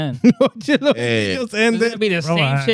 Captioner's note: speaking In Foreign Language